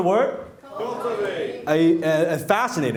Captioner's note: crowd